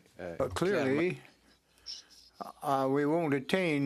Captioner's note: speaking French